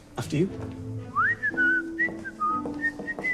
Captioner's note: whistling